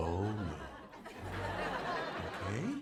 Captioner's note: laughter